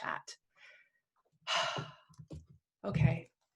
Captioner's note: exhales